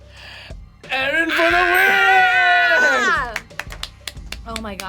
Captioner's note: screams